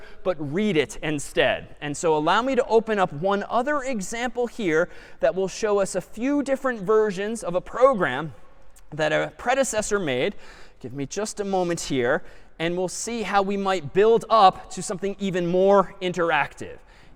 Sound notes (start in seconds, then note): none